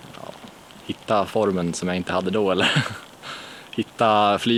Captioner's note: laughter